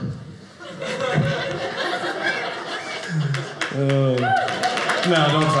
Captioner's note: audience clapping